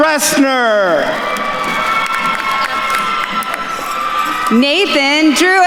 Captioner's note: attendees cheering and applauding